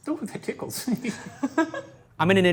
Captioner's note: both laugh